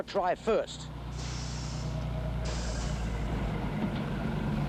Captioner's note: brakes hissing